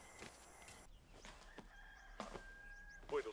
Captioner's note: rooster crows